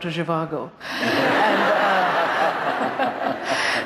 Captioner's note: laughter